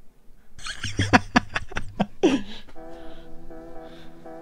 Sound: laughter

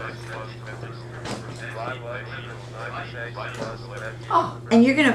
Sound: calculator Sounds

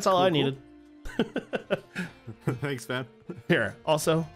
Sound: chuckles

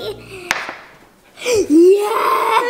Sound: thud

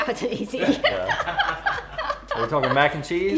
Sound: laughing

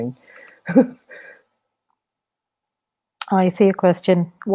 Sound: chuckles

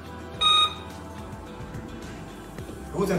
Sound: door bell

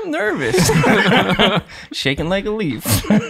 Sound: all laughing

